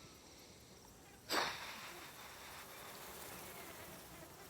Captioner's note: sighs